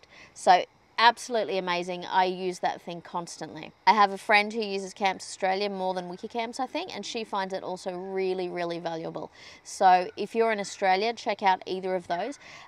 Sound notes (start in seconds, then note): none